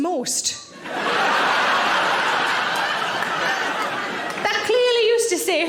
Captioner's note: audience laughing